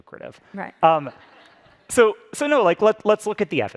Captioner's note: audience laughs